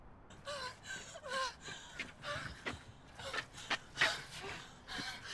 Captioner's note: women panting